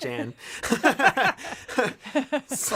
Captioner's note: laughter